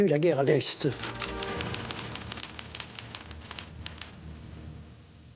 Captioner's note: typewriter clacking